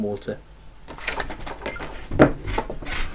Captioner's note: beep beep boop